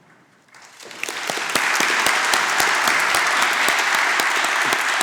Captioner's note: applause